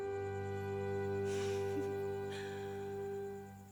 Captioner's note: giggles